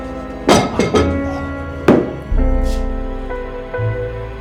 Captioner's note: frying pan thuds